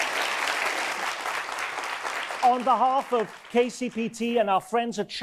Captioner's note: audience applause